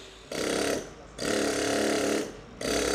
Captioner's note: machine chattering